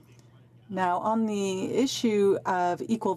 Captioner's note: speaking French